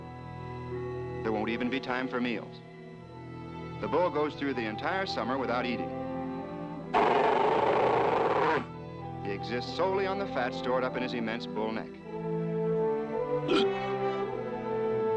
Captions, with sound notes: There won't even be time for meals. The bull goes through the entire summer without eating. (GROWLING) He exists solely on the fat stored up in his immense bull neck.